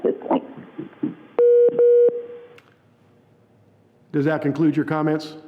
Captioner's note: double beeping